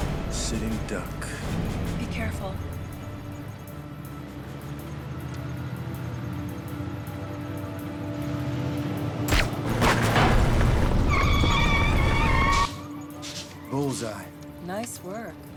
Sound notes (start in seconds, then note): 9.3 gun firing; 11.1 tires squealing